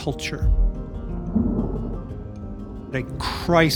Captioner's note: water rustling